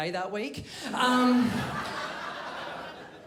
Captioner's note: crowd laughs